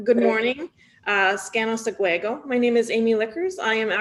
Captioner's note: foreign language